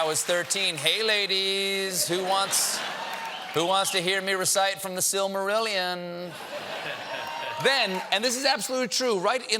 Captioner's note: laughter